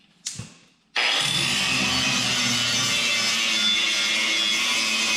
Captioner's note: grinder screeching